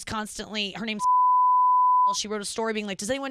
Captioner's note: beep